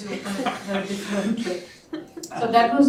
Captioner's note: laughter